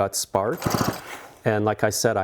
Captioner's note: chainsaw whirring